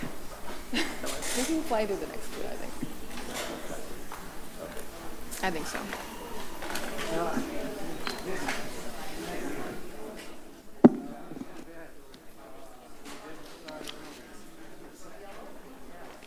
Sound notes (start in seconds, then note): 0.0 background chatter; 14.6 background chatter